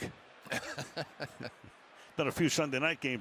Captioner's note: laughs